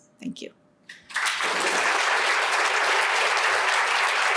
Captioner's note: applause